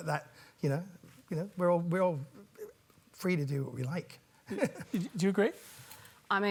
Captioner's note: laughs